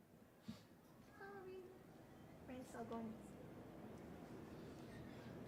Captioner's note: speaking softly